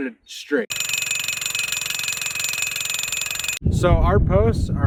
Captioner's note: rhino pounder hammering